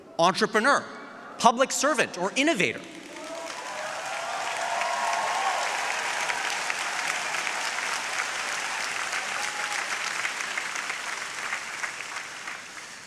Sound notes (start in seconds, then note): 3.6 audience applauding